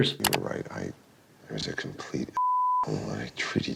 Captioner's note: beep